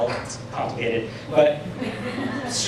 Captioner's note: laughter